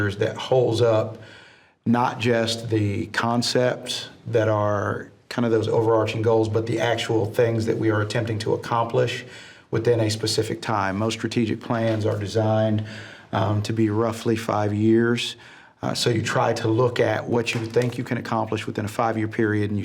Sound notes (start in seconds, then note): none